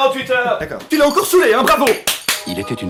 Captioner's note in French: clapclapclap